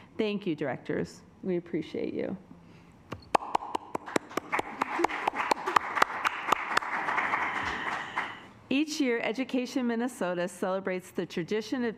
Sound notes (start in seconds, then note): 3.2 assembly clapping